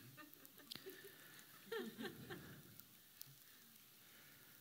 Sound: laughter

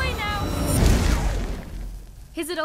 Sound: explosion

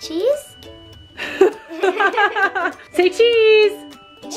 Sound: both laugh

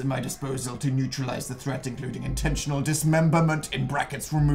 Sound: none

